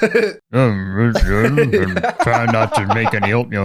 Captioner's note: mumbles